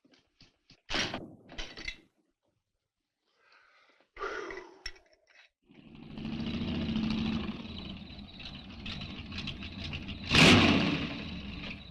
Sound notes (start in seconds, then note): 3.4 sheriff gasps; 5.7 engine rumbles; 7.9 insects chirping